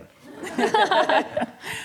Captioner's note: laughter